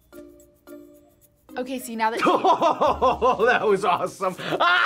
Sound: laughs

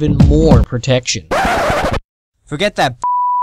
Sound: record Scratch

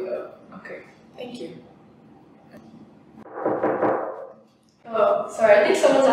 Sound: knock at the door

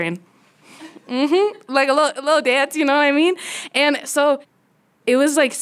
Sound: laughter

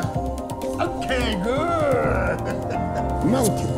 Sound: chuckles

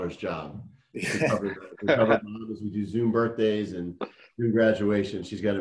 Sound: speaking faintly

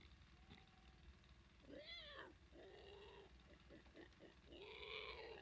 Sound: sound of pig squealing

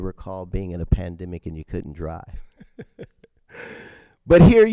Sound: chuckles

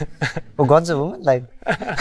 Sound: laughter

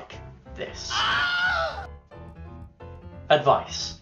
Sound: Wilhelm scream

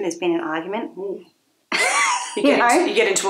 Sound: laughs

